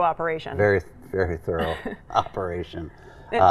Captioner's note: laughing